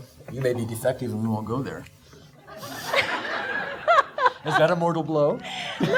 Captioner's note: audience laughing